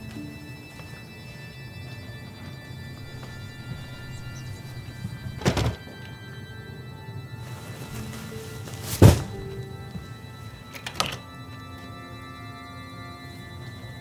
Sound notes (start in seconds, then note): 0.1 gentle music; 4.4 birds chirping; 7.5 gentle music